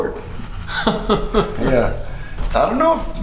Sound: laughing

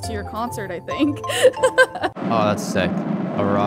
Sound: laughing amusingly

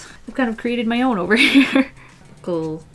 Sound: laughs

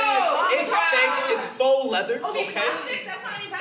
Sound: disgruntled yelling

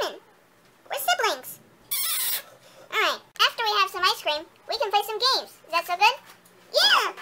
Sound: kisses

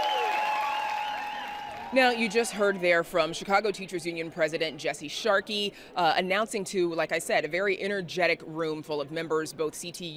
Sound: cheering

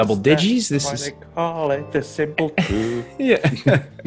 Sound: laugh

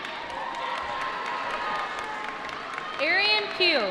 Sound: applause

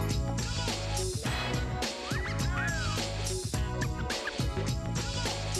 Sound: wolf whistle

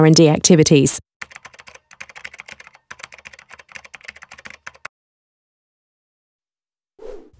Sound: keyboard tapping

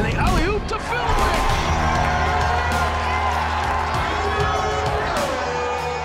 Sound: crowd cheering

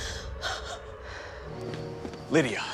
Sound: Lydia whimpers

